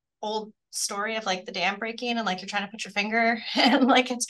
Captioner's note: laughs